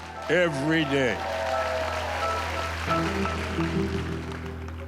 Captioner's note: cheering and applause